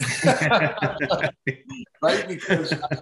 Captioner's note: both laugh hard